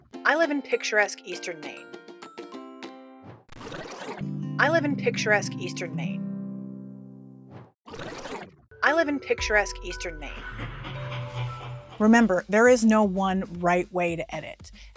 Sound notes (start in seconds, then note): 3.5 rewind sfx; 7.9 rewind sfx